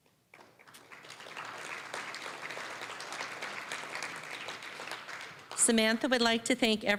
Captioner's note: applause